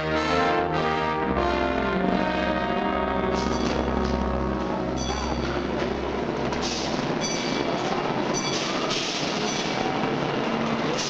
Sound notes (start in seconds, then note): 5.2 machinery rumbling